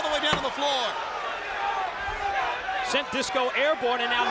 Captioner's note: crowd cheering